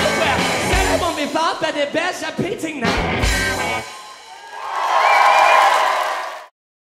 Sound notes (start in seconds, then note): 3.7 crowd cheering